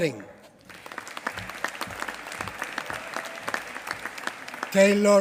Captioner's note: applause